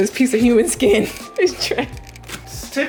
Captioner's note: laughing